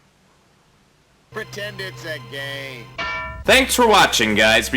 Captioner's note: ding of confusion